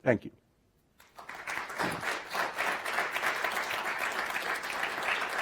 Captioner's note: audience applauding